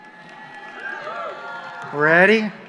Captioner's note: cheers